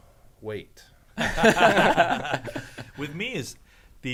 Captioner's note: men laughing